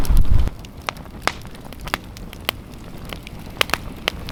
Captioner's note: fire crackling